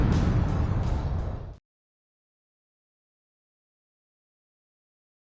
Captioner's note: explosion